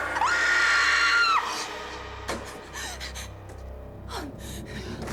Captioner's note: screams